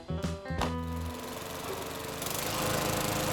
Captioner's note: lawnmower running